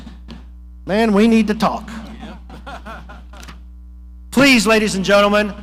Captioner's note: person laughing